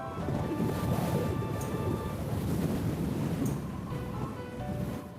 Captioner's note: strong wind